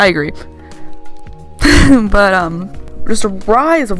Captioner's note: wheeze